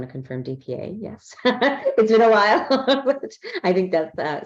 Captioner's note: laughs